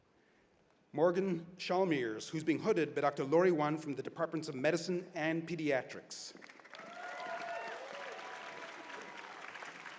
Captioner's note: cheers and applause